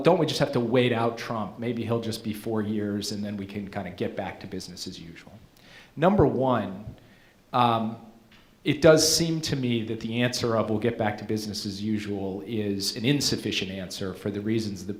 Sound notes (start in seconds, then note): none